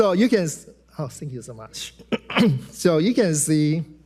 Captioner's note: clears throat